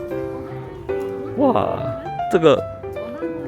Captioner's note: emotionless cracking voice